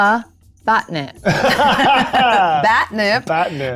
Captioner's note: group laughs